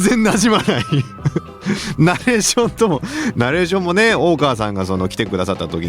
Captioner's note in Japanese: 笑い